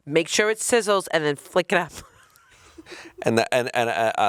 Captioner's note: chuckling